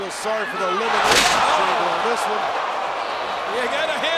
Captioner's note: crowd exclaiming; wrestlers slamming